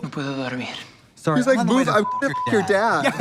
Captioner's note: beep